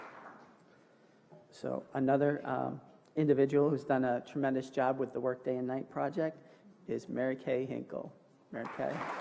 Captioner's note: applause